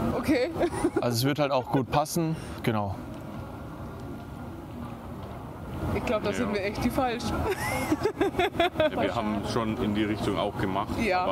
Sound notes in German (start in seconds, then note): 0.7 lacht; 7.5 lacht